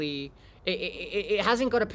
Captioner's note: monkey noises